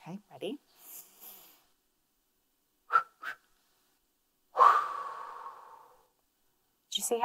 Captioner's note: inhales; exhales